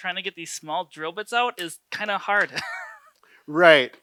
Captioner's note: laughs